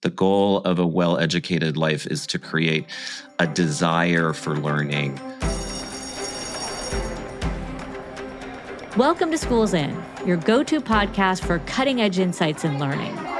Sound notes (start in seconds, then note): 5.4 bell ringing